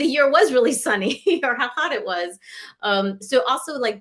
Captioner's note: laughter